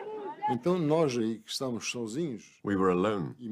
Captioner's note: non-english speech